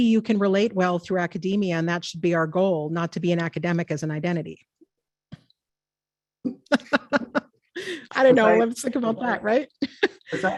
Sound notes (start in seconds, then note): 6.5 laughs